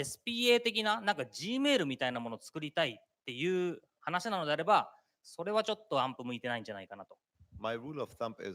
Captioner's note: speaking japanese